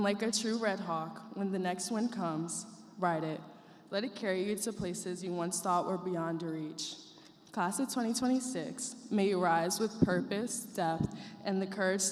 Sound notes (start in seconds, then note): none